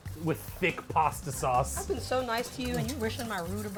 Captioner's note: whisk rustling